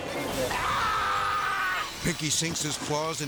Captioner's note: yells